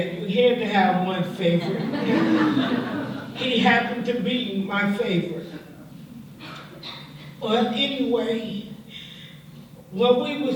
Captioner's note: laughter